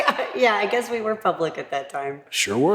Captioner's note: laugh